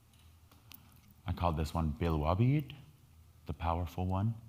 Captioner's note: speaking in foreign language